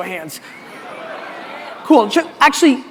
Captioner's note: audience chuckling